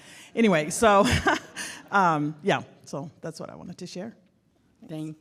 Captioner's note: laughs